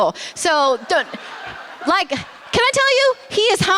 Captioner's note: laughter